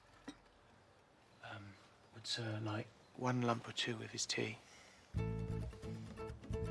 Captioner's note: berbisik